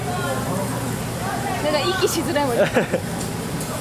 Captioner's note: laughs